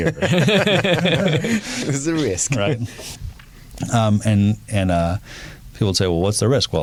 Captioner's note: laughing